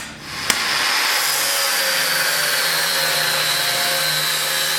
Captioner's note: grinding sound